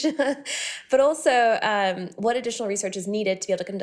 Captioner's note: laughing